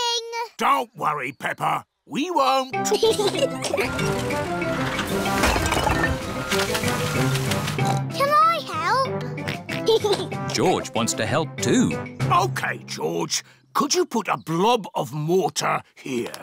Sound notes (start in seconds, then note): 2.8 both giggling; 7.8 oinks; 9.2 oinks and giggles